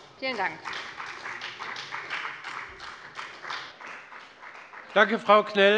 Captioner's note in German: Beifall bei der FDP